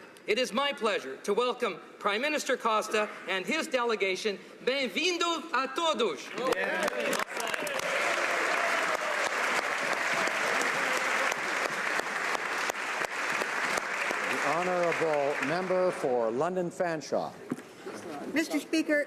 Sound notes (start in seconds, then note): 8.8 speaking alternate language; 11.2 applause